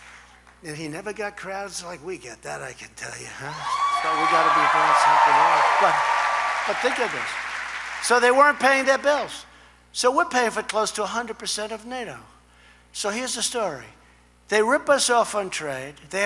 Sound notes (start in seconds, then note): 3.6 applause